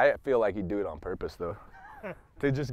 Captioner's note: man laughing